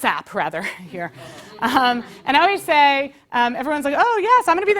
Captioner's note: laugh